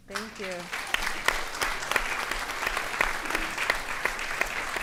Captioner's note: audience applauding